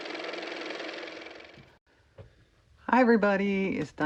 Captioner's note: car motor